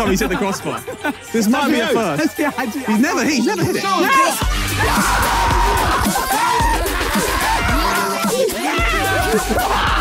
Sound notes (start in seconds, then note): 3.6 players cheer; 5.7 upbeat hip hop music